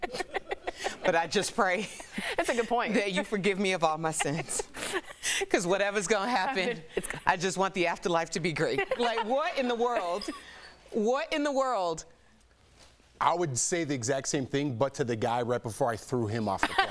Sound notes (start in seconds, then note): 8.7 laughter